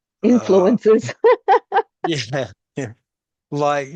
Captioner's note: laughs